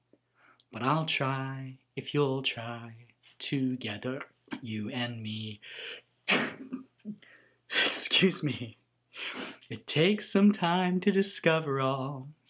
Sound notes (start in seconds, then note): 4.3 gulps; 6.2 sneezes; 8.8 laughs